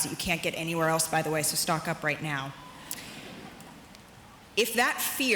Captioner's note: audience chuckles